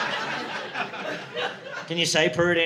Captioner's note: audience laughing